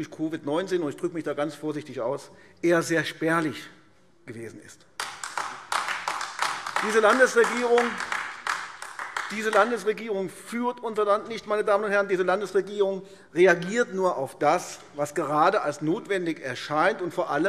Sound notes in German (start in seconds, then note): 4.9 Beifall AfD